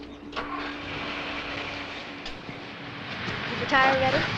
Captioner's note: car engine rumbling